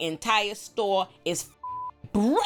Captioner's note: beep